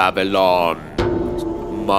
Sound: bell tolls

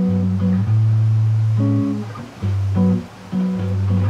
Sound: trees rustle

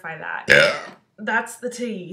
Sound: belches

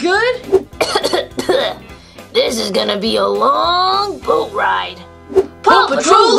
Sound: coughs

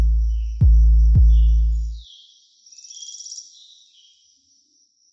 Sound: birds chirping

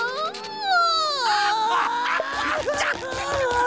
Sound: whimpering; crying; laughing; crying

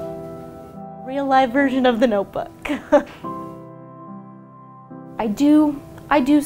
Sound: chuckling

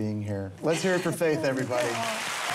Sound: cheers and applause

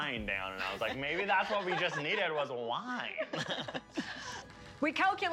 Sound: laughter

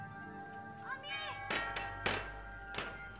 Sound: doorbell rings

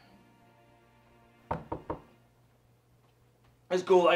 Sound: knock on door

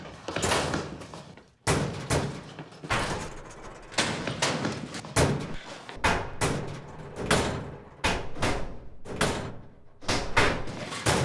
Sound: slamming

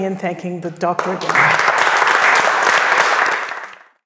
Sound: audience clapping

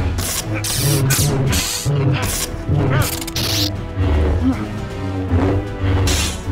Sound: tense music; lightsabers clash

